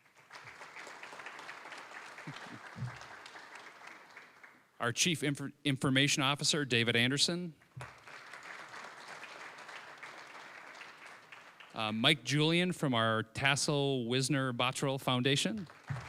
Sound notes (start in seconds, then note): 0.0 applause; 7.6 applause